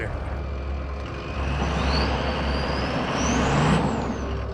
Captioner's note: engine revving